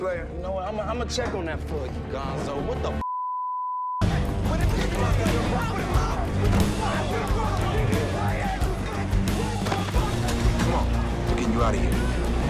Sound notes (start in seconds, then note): 4.5 all yelling